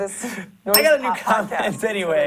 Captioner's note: bell rings